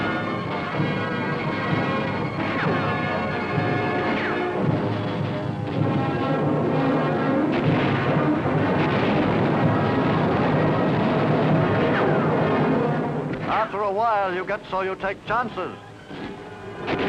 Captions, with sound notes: (explosions thundering) After a while, you get so you'll take chances.